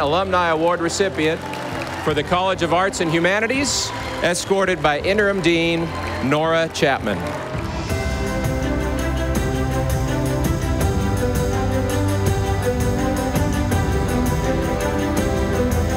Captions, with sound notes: for the College of Arts and Humanities, escorted by Interim Dean Honora Chapman. (audience applauding) (stately music)